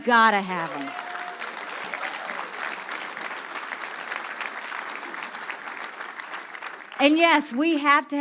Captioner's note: audience applause